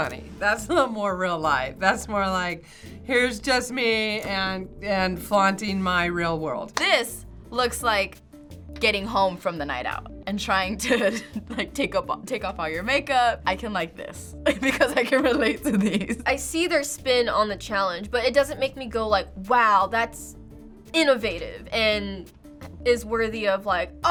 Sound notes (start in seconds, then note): 10.9 chuckles